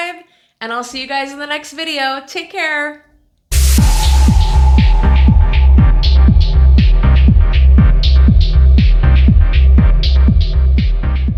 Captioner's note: beep!